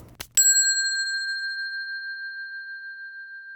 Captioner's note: bell dings